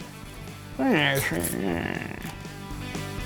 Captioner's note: 1920s mobster noises; rock music